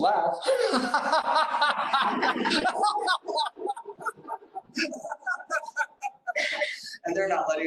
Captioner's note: laughs